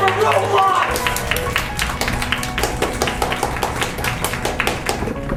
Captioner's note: applause